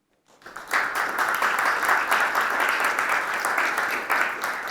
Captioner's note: audience applauding